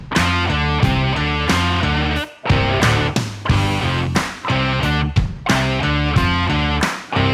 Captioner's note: applause